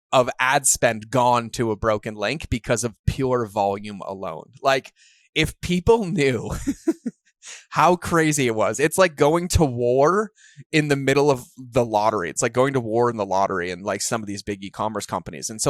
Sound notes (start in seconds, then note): 5.9 laughs